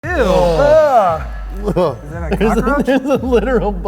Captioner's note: groaning